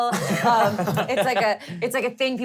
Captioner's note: laughing